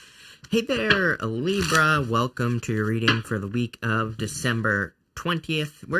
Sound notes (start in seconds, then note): 1.4 shuffling cards